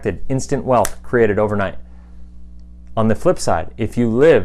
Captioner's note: clicks fingers